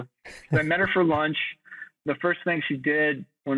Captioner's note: chuckles